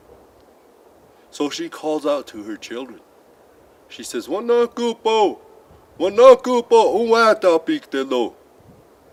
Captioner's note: speaks Lakota